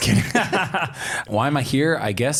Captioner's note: both laugh